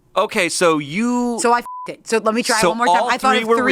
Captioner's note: beep